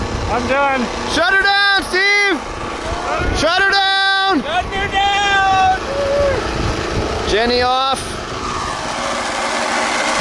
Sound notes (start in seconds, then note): 6.0 whooping